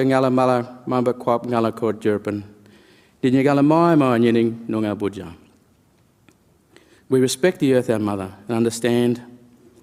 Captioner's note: speaks in language